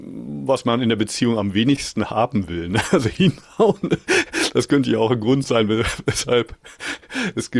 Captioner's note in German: gelächter